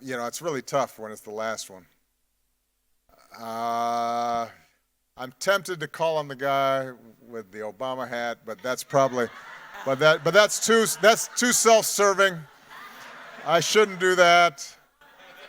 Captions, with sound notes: You know, it's really tough when it's the last one. I'm tempted to call on the guy with the Obama hat, but that's probably, but that's too self-serving. (audience laughing) I shouldn't do that.